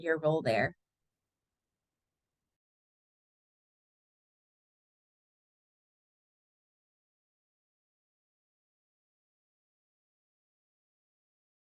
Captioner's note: silence